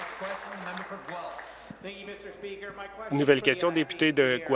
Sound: some Applause

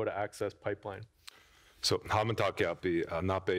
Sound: foreign language

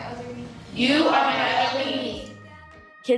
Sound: whole class speaking

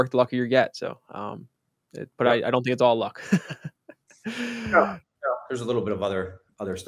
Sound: laughs

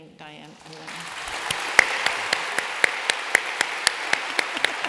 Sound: applause

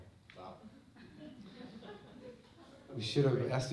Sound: laughter

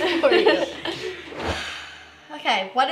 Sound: laughter

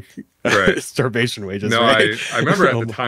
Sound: laughs

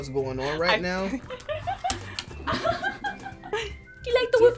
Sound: laughs

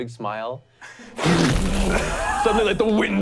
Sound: wooshing

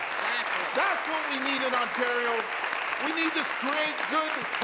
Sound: applause

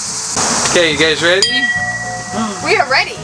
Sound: bell rings

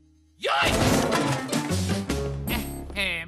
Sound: crash

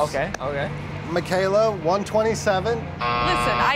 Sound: buzzer

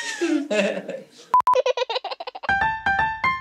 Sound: laughs; baby giggles

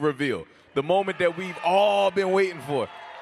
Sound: cheers and applause

